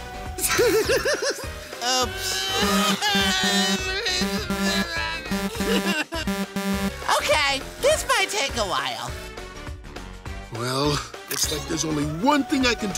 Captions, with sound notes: [laughing] Oops. [whining] Okay, this might take a while. Well, looks like there's only one thing I can do